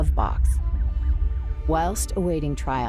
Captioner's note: sirens whine